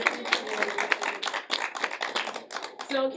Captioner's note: applause